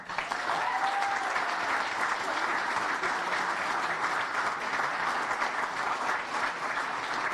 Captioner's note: applause